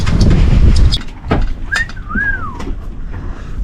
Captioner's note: clicks tongs; wolf whistles